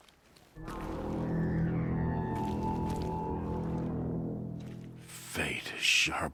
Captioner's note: horn blares in the distance